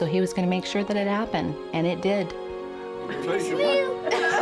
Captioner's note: all laughing